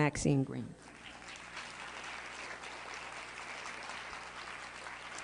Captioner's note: applause